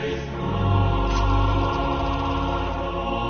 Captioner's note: classical choral music playing; film projector whirring